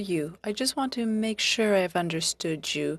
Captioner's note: speaking French